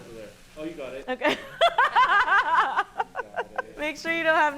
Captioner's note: laughs